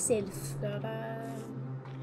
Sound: in a sing-song voice

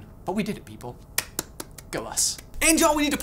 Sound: claps

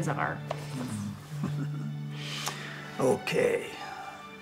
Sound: chuckling

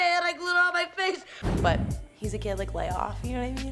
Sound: air whooshes

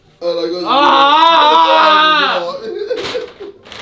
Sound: yells

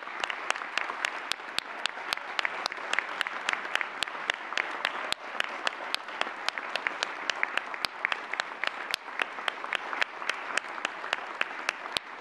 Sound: applause

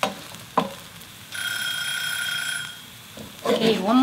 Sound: alarm ringing

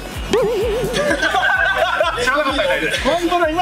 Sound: laughs

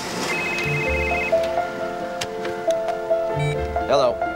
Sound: engine Starts,</i> <i>Phone Rings; phone Beeps

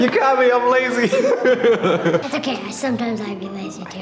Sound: laughing

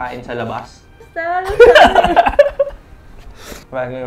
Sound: laughs

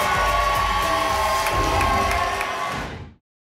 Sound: whoosh

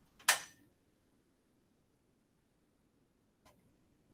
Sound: metallic clacking

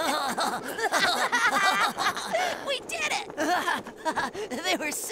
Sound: ha ha ha ha

